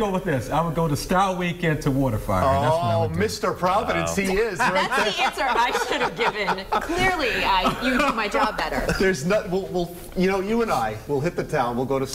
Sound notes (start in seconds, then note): 4.3 laughter